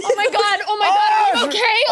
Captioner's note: laughing